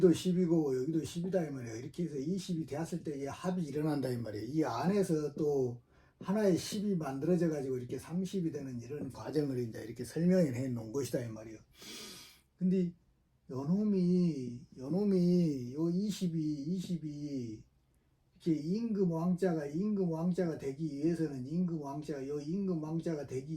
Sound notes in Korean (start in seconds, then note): 11.8 콧방귀